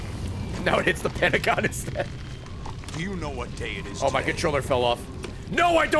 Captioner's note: laughs